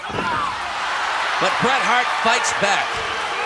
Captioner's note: audience cheering